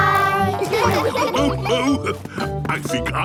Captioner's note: laughs